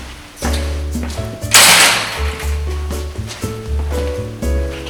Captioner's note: door slamming